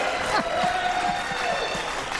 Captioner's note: applause; laughter